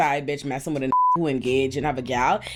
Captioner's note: beep